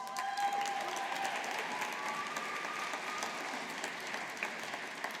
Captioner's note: audience applauding